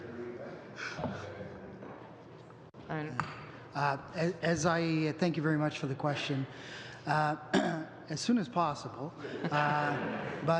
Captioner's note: laughter